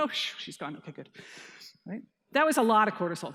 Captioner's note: exhaling